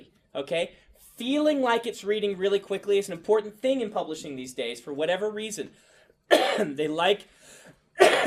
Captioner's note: coughs; coughs